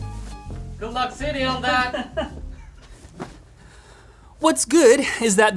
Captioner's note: laughs